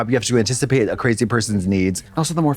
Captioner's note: none